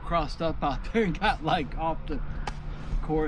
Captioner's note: engine roaring